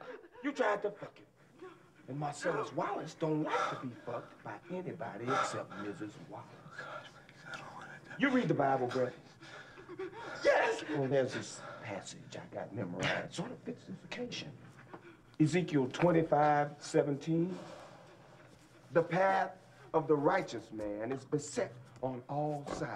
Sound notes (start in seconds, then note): 3.1 panting; 9.5 whimpering